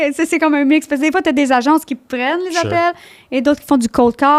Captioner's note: in french